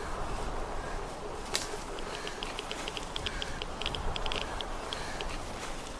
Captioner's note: wind blowing